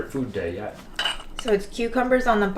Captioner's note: bowls clinking